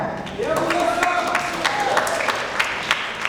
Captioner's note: applause